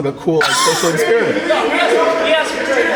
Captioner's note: people laughing